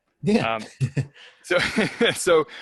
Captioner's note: laughs